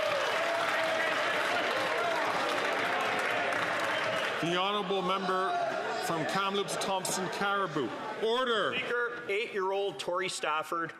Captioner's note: some Applause